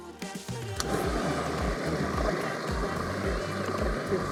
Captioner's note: blender whirring